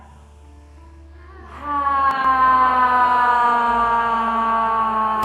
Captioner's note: all sigh slowly